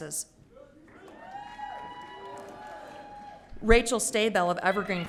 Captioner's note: audience cheering